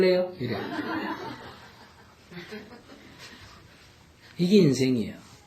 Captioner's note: audience Laughter